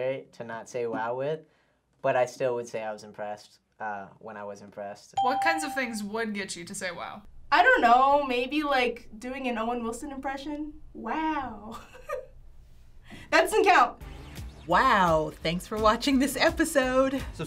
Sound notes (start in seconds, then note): 5.2 ding; 11.7 giggles